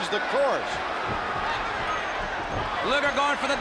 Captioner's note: crowd chatter